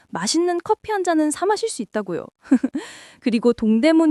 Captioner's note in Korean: 웃음